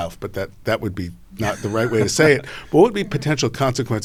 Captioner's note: laughs